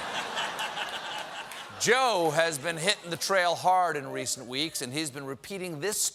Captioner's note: laughter